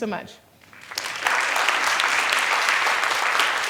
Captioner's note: applause